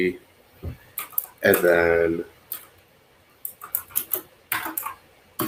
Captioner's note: keyboard clacks